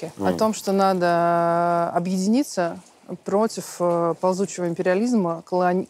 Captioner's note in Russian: none